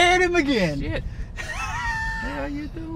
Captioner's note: laughs